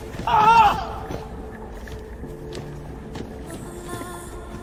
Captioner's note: solider shouting; bright ethereal music